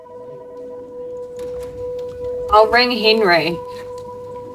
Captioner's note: phone ringing